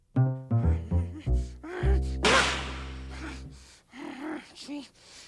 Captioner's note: grunting